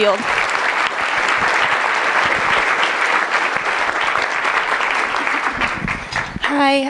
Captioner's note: applause